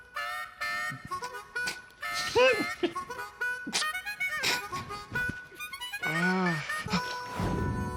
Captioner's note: chuckling